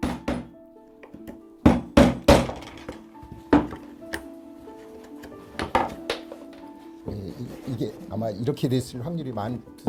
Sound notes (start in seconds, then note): 0.0 hammering sounds; 3.5 tool sounds